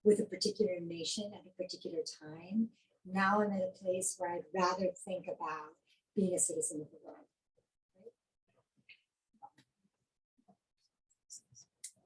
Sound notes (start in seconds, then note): none